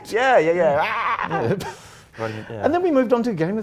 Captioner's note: laughing